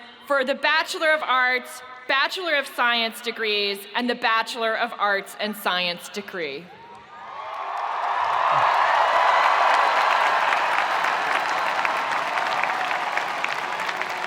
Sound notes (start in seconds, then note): 6.8 spectators cheering; 7.3 spectators applauding